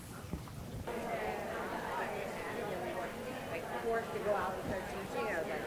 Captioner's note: audience chatter continues